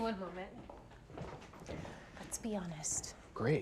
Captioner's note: footsteps retreating